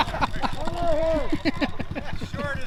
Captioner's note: laughing